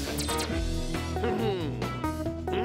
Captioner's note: mutters